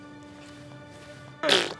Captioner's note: spitting sound